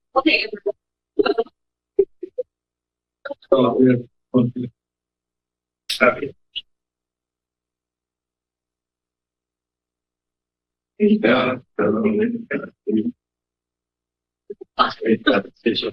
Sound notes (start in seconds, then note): 0.0 background chatter